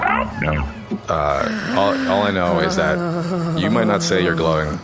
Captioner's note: inhales and lets out a shaky groan